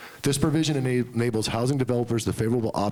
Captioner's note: none